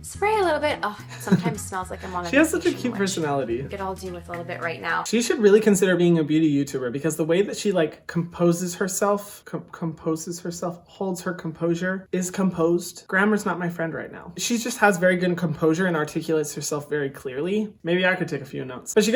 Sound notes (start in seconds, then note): 1.0 giggling